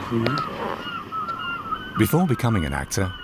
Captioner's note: birds squawking